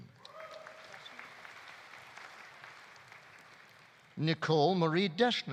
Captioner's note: audience applauding; audience cheering